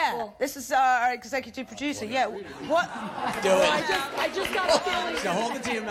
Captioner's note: audience gasping